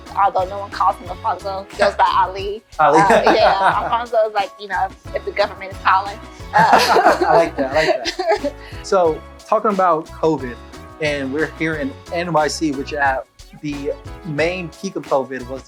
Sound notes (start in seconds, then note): 2.8 laughs; 6.4 laughs